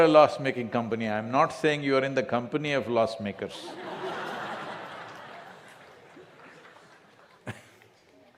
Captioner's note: laughter